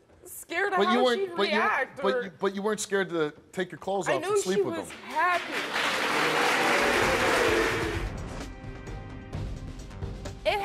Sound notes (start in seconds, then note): 4.5 audience applauds; 6.7 dramatic music